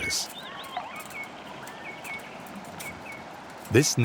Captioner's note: birds singing